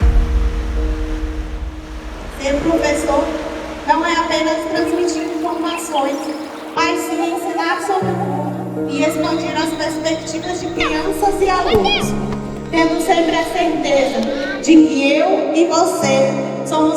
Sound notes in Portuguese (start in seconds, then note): 2.3 voz feminina